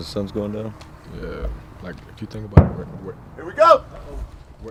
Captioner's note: explosion